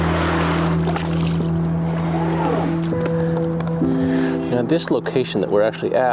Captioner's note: water splashing; somber music continues